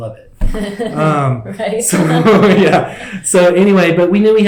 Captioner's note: laughter